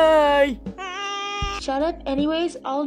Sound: screams stupidly

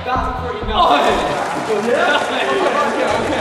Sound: applause

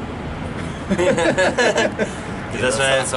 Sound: laughing

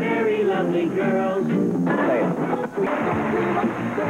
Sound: static and galed

